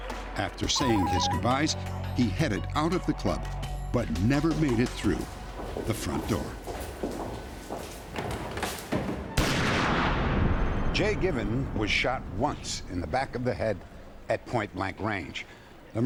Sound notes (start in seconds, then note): 6.6 footsteps; 9.3 gunshot